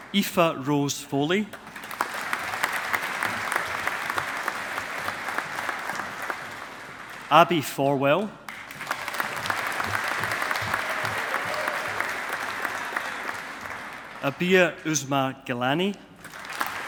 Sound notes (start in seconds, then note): 1.5 audience applauding; 16.2 audience applauding